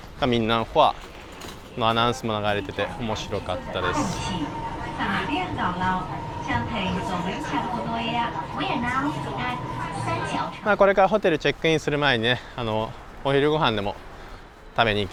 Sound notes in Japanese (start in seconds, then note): 4.0 電車の音